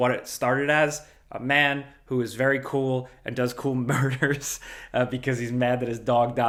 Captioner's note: laughs